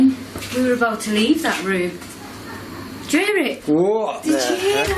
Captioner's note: loud laughing